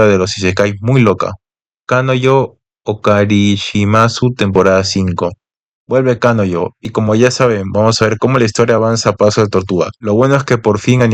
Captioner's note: mizuhara's voice